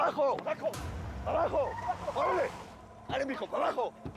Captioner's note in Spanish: chirrido de llantas